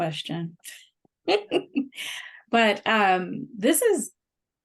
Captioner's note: laughter